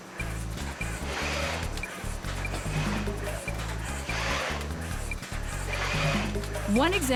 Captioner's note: machines working